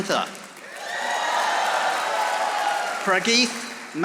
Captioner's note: audience applauding